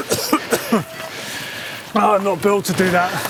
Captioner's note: coughing